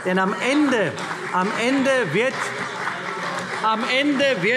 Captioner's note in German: Beifall CDU - Zuruf: Das tun wir auch!